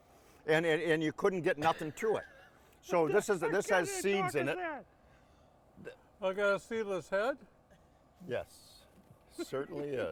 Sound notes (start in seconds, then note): 2.3 laughing